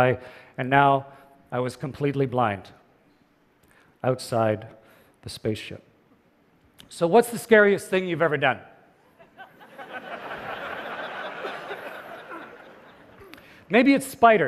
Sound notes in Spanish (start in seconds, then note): 9.1 Risas